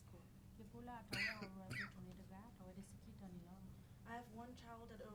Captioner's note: speaking in foreign language